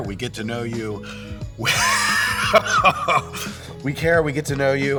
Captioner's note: painful laugh